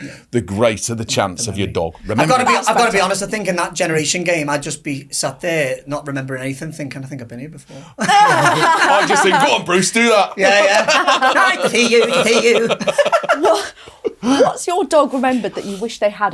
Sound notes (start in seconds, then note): 8.0 laughing